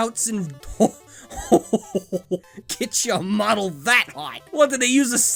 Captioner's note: shocked laughter